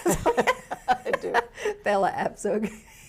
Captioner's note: laughs